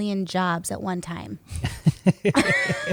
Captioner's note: laughter